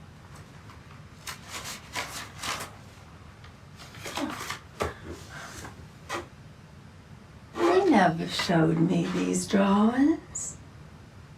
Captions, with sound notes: (pages rustling) You never showed me these drawings.